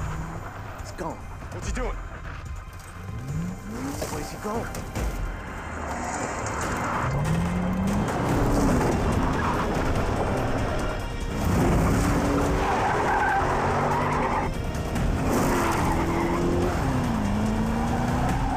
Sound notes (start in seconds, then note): 13.1 tires squeal